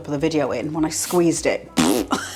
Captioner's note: blowing a raspberry